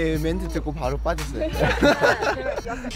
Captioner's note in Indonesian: Ha ha ha ha ha ha ha